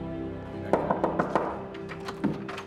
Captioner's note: knocking on door